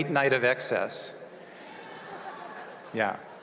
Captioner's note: laughter